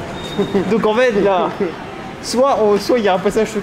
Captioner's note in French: Rires